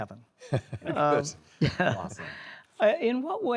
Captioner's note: laughs